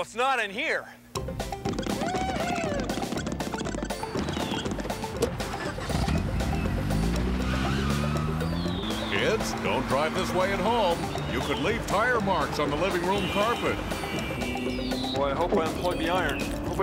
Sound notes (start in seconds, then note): 4.5 engine turns over; 7.7 tires squeal